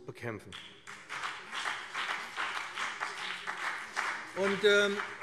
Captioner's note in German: Beifall BÜNDNIS 90/DIE GRÜNEN und CDU